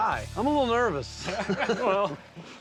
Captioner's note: laughing